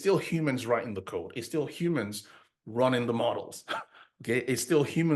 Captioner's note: chuckles